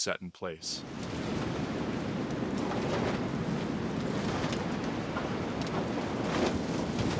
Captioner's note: wind howling